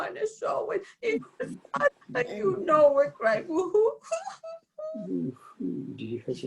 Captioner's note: cries